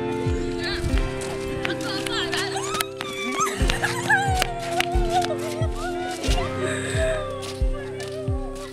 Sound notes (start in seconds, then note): 1.1 friend squealing joyfully